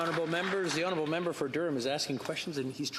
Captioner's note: some Applause